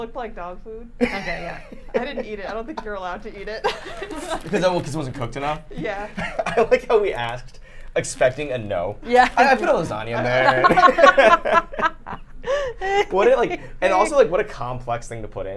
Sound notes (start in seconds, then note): 10.0 all laughing